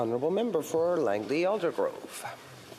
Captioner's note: speaking French